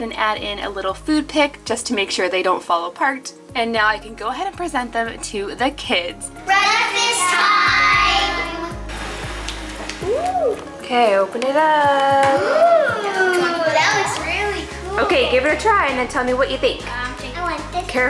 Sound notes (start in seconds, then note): 12.3 children ooh